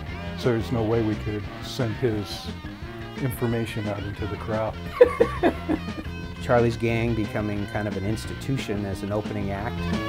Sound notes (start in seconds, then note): 4.8 laughs; 9.9 rock music plays